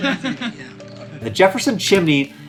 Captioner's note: all laughing